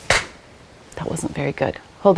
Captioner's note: person clapping